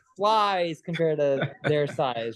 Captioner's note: host chuckles